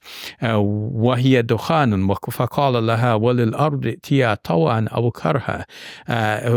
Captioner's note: speaking in Arabic